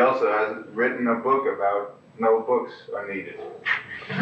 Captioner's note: laughter